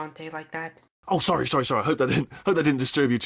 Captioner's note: chuckle